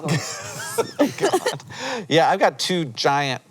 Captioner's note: BOTH laugh